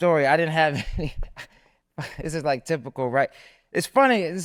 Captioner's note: laughs